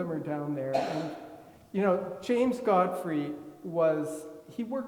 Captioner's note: attendee coughing